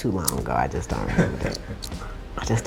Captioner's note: laughter in background